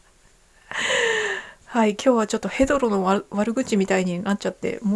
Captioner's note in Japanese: 息をのむ音; 笑い